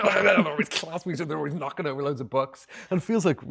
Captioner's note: Andrew growling